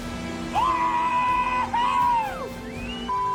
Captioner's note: whooping